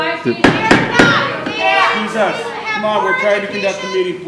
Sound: audience interrupts

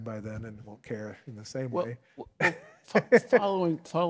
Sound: laughs

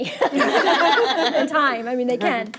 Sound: board members laugh

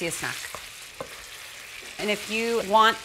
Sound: sizzling

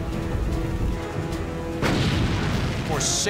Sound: explosion

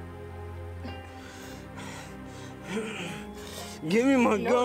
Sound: grunts

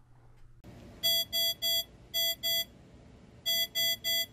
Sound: alarm beeping

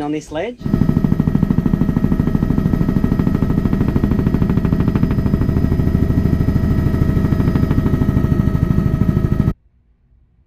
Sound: helicopter blades whirring

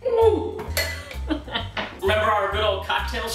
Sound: laughs

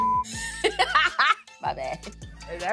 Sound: beep; laughs

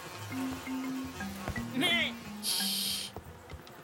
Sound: bleating

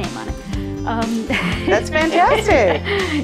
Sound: laughs

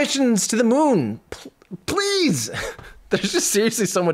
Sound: laughs

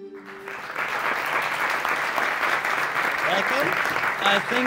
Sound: applause

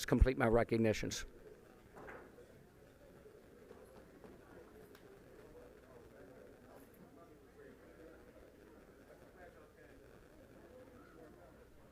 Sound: group chatter

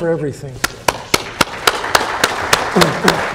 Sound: applause

